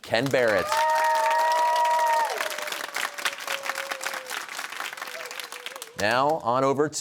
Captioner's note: cheers and applause